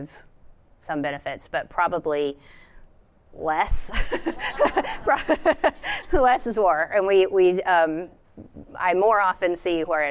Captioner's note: laughter